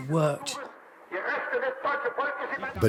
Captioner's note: broadcast in German plays over the radio